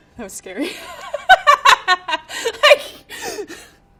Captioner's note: laughing